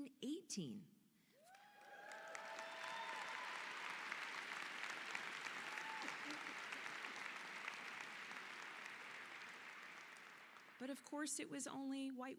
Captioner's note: applause